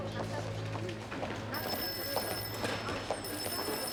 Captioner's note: phone ringing